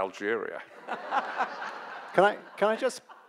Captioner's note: audience laughs